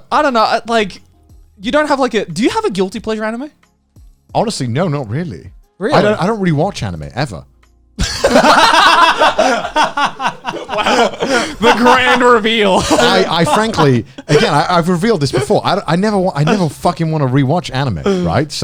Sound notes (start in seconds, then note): 8.0 laughing